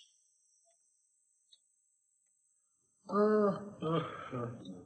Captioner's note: yawning